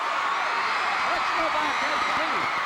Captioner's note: audience cheering